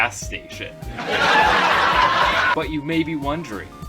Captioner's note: laugh track